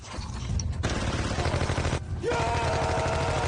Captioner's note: gunfire; actors yelling and gunfire